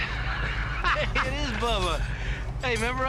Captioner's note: laughs